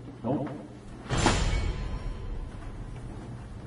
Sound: Vine boom sound effect #1

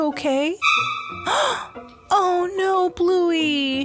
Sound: Chilli gasps

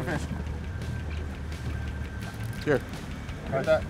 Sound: background chatter

